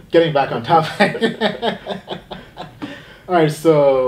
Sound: laughing

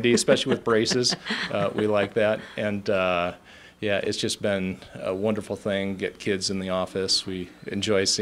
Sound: laughs

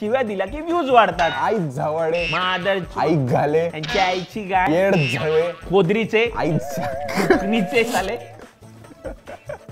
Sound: abusing in a native language

